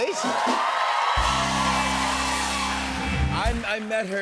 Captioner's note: cheers and applause